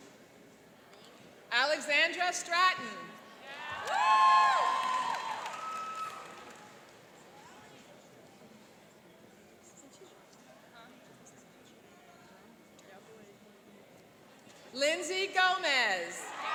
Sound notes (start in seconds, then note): 3.5 cheering and applauding; 16.2 cheering and applauding